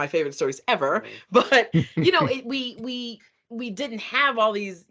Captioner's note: laughing